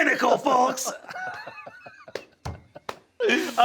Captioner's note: Sam laughing; Brennan wheezing; fist thumping